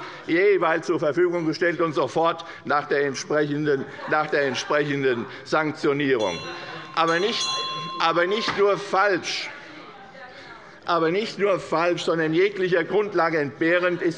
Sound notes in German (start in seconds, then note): 6.1 Unruhe - Glockenzeichen des Präsidenten